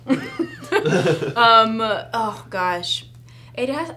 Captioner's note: laughing